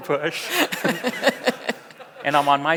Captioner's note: audience laughs; laughs